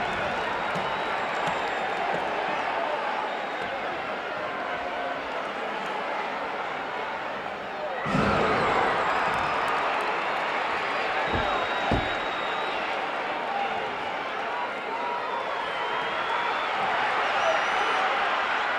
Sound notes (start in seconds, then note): 8.7 audience cheering; 14.5 audience chattering